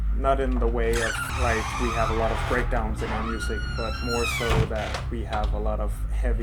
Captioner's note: ah oui la porte qui grince !